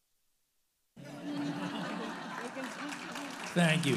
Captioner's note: all laughing; audience applauding